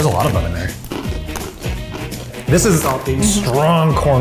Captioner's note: crunching